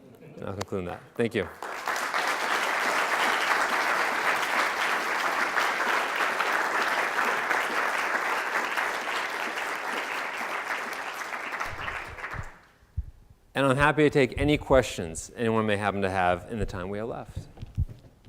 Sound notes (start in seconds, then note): 1.7 audience applauding